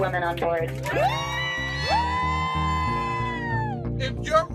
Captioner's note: cheering and applause